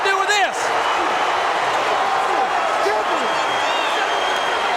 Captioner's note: audience cheering